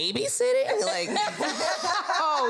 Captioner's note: all laugh